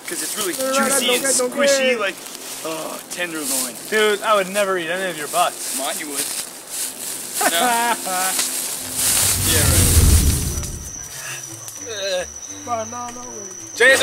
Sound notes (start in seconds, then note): 7.3 laughing; 8.3 leaves rustling; 10.6 playful music